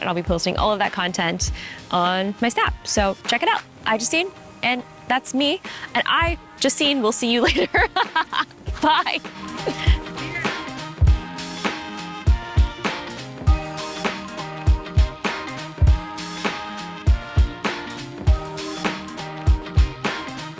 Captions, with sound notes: and I'll be posting all of that content on my Snap. So check it out. iJustine, and that's me. And I, Justine, will see you later. (laughs) Bye. (upbeat music)